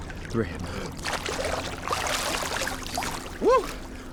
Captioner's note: water lightly splashing